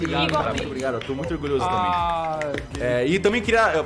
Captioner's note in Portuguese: Palmas